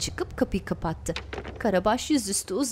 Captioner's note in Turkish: Kapı kapanma sesi